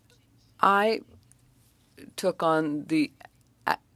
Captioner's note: speaking French